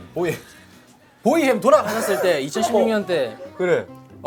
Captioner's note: sudden outburst